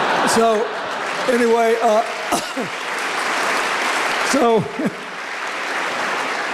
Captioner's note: laughter and applause